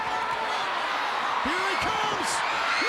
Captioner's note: crowd cheering